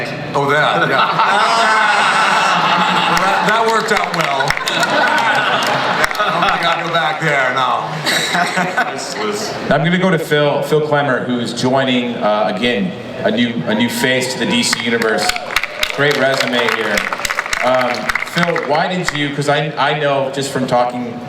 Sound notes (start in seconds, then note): 2.0 audience laughs; 4.9 audience laughs and applauds